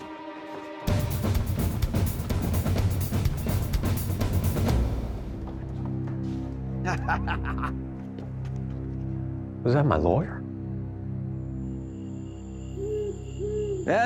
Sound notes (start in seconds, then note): 6.8 chuckles